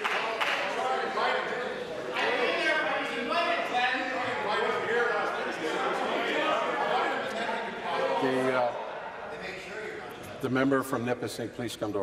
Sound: applause

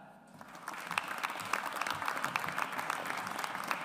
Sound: audience applauds

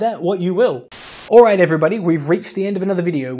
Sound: Static

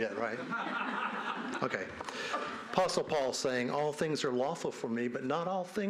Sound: speaking non-english language

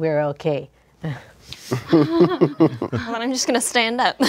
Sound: all chuckle

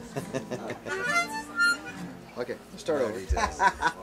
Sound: chuckling; laughs

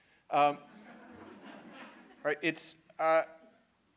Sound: students laughing

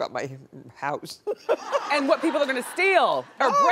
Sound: audience laughing

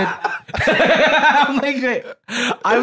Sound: laughs

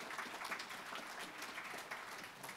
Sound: applause

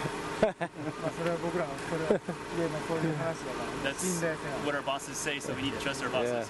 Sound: laughter; through translator

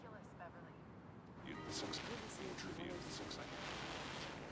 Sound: radio whirring

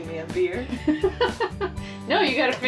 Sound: laughter

